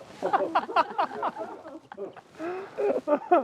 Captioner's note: everyone laughing